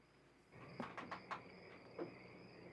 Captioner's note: crickets chirping